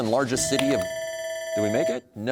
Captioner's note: bell ringing